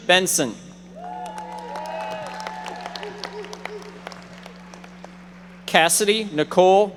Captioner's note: audience members applauding